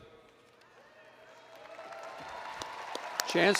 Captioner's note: applause & Cheering